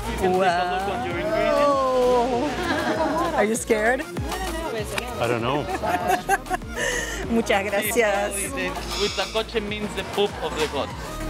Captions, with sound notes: Wow! Are you scared? - I don't know. - [laughs] - Thank you very much. [in Spanish] - Huitlacoche means the poop of the gods.